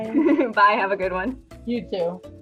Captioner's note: laughs